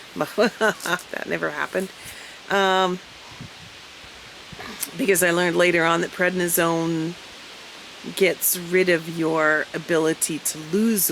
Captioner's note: laugh